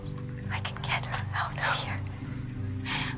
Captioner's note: whispering